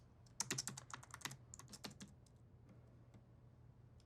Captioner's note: keyboard clicking